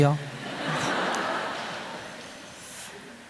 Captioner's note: audience Laughter